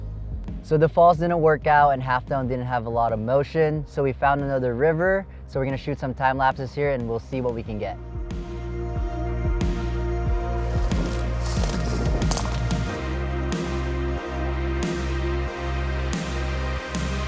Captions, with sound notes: So the falls didn't work out and half dome didn't have a lot of motion, so we found another river so were gonna shoot some time lapses here and we'll see what we can get. (pop music) (twigs breaking) (pop music)